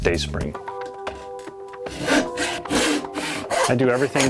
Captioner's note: sawing